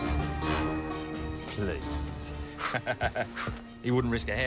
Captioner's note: laughs